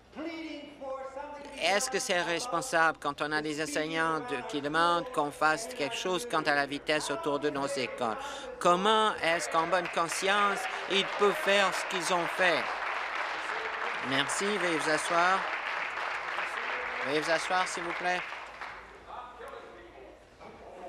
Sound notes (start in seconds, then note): 15.7 applause